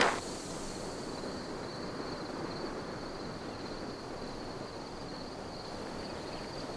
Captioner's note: birds chirping; crickets chirping